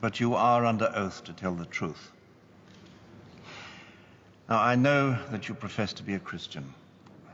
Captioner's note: none